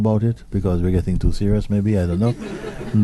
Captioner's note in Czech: smích